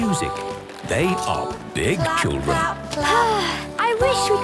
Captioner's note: Belinda sighing